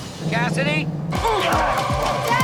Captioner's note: grunting